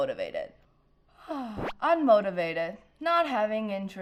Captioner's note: sighs